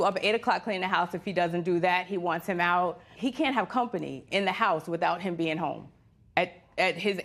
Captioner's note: none